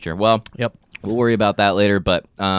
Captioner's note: smacks